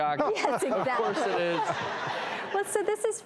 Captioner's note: laughing